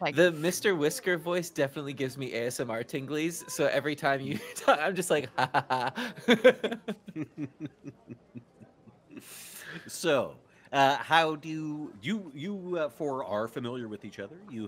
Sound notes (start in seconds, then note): 6.4 multiple chuckling